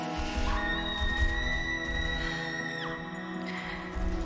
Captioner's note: muted screaming